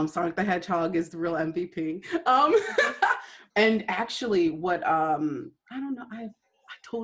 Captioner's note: laughter